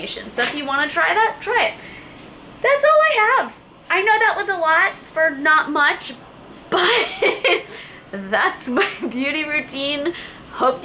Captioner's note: laughs